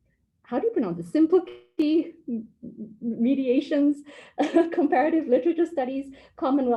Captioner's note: laugh